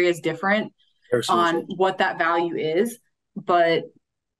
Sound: faintly speaking

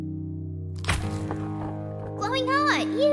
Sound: chomp

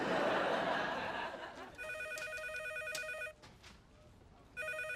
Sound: phone ringing

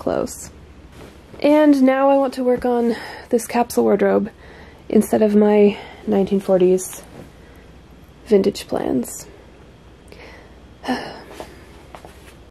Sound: sigh

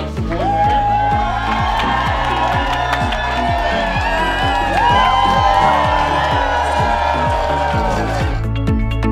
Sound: cheers and applause

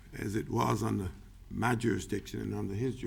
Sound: none

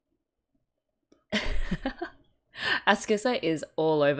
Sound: laughs

